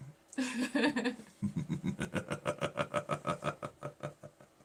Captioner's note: laughing